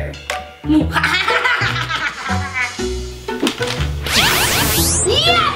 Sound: laughs maniacally; zapping noise

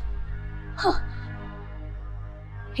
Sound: scoffs

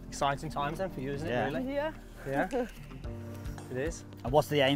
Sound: laughs

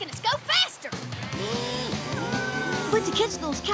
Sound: mooing

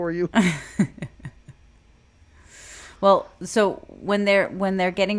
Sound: chuckles

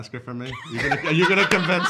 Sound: laughing

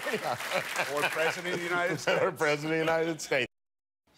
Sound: applause

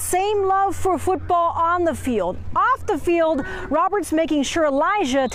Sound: laughter

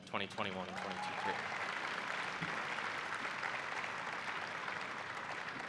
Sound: applause

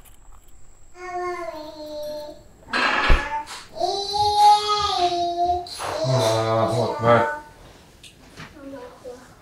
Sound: baby talks

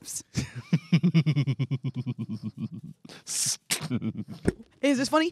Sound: laughs

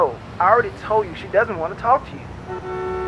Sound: horn honks

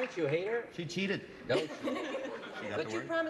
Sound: laughs

